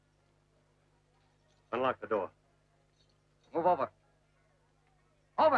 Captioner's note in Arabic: none